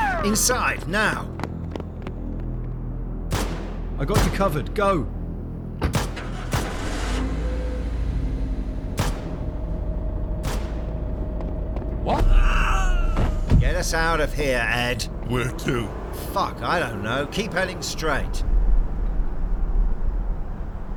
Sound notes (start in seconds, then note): 10.6 heavy footsteps; 12.1 scream